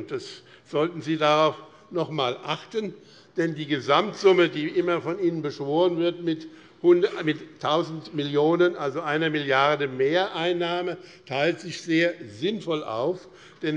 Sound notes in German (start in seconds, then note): none